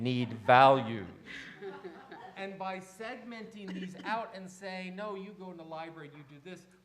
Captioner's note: in a louder voice